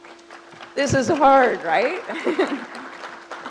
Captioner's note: crowd applauds